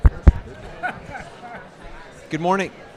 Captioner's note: chuckling